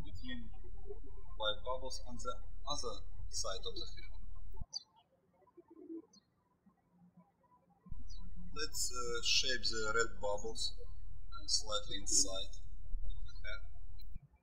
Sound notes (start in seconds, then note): 4.8 birds chirping; 14.2 birds chirping